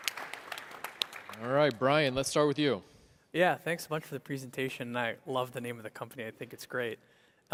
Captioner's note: applause